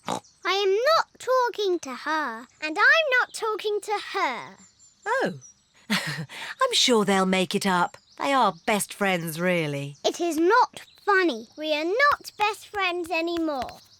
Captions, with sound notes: (SNORTS) I am not talking to her. And I'm not talking to her. Oh.(LAUGHS NERVOUSLY) I'm sure they'll make it up. They are best friends, really. -It is not funny. -We are not best friends anymore.